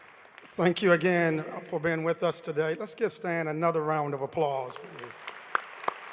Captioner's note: applause